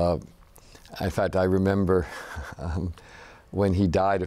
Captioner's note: laughs